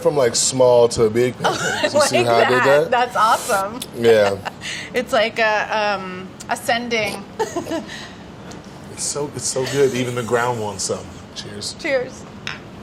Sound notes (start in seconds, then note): 1.4 laughs; 12.6 glasses clinking